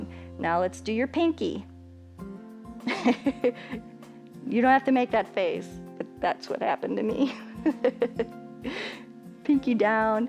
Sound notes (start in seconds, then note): 2.8 chuckles; 7.2 chuckles